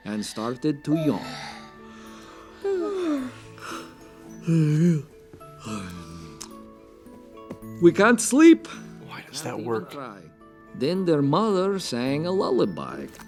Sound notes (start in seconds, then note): 2.6 yawns get contagious